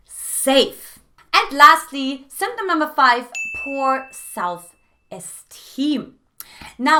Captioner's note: beep